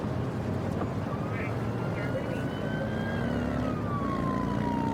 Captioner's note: siren blaring